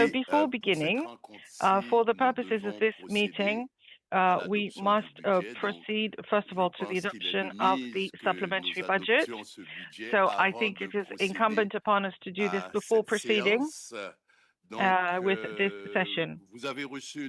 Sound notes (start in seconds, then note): 6.8 speaking French